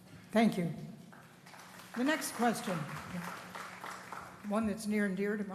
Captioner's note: applause